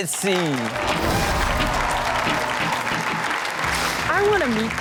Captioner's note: audience applauding